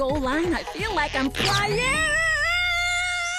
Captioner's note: yelling